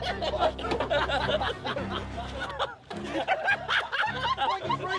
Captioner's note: laughter